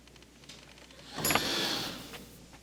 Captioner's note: sigh